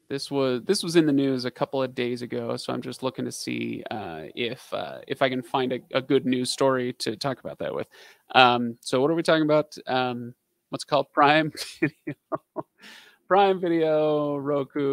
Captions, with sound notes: This was in the news a couple of days ago. So I'm just looking to see if I can find a good news story to talk about that with. So what are we talking about? What's called Prime? (laughing) Prime Video, Roku.